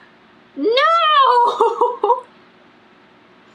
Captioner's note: laughs